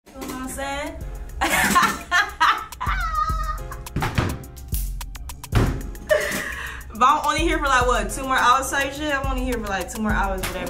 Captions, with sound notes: ( Laughter ) But I'm only here for like 2 mo hours type shit